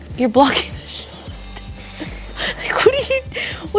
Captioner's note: laughing